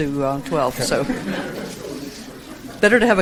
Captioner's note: audience laughs